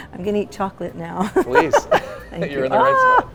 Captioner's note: laughs loudly